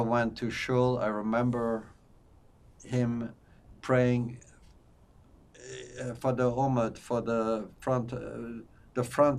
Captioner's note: non-english